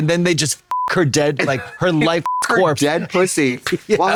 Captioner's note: beep